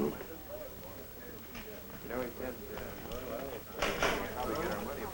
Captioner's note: chattering